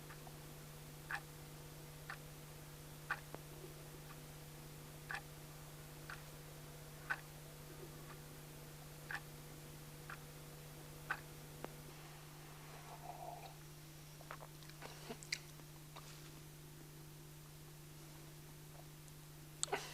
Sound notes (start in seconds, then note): 3.7 clock ticks